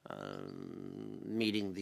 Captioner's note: speaking native language